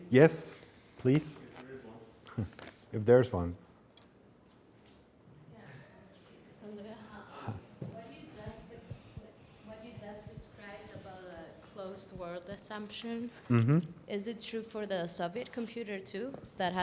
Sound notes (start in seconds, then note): 5.8 student faintly speaking